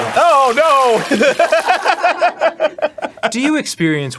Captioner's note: laughing at the leakage